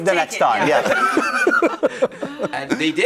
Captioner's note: laughter